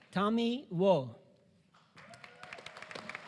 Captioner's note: applause